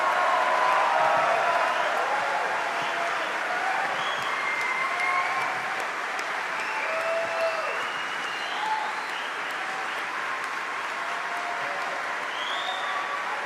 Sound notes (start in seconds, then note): 2.7 applause; 2.7 cheering; 9.9 applause